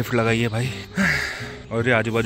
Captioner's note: exhaling